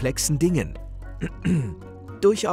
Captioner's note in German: Räuspern